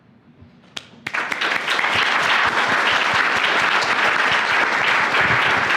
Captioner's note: applause